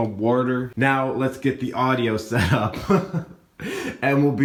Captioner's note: laughs